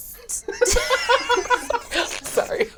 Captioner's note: all laugh